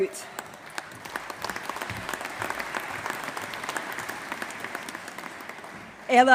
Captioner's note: applause